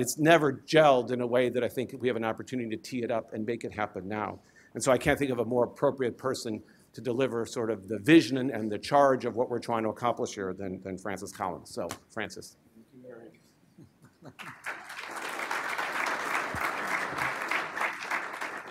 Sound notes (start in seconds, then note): 14.3 applause